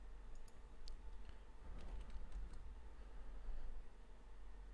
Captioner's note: types on keyboard